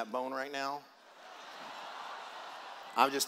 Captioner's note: laughter